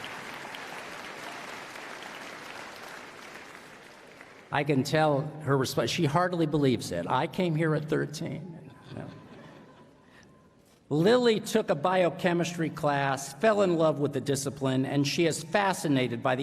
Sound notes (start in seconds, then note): 0.0 applause; 8.7 laughter